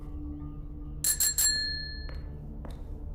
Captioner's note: Call bell dings